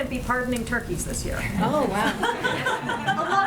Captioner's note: laughter